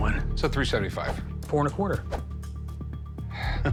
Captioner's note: sighs; laughs